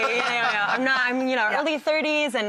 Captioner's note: laughs